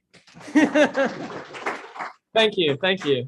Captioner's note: audience clapping; laughs